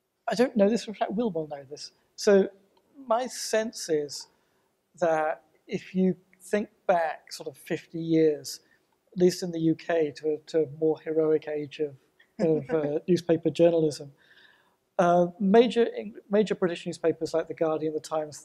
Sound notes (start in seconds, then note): 12.4 chuckles